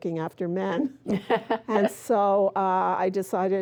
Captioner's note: laughing